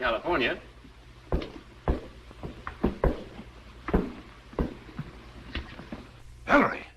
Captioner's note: knocking